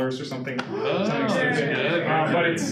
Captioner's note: audience woos and laugh